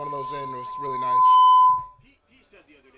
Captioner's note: mic chime blares loudly